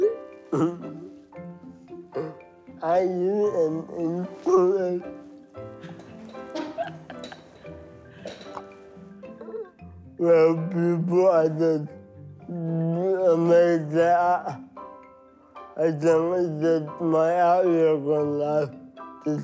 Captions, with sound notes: (laughing) (laughing) Some people are just amazed at my outlook on life,